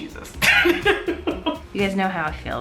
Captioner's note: laughs